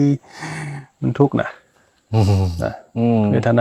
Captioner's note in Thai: เสียงสูดหายใจ